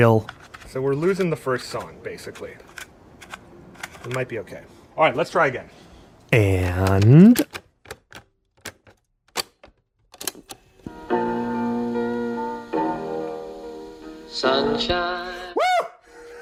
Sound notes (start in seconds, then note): 6.6 multiple clicking sounds; 15.8 laughing